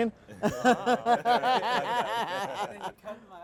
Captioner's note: laughs